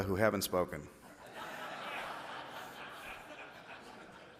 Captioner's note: laughing